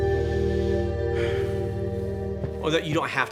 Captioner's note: sighs